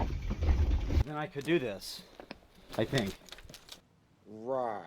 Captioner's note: engine revving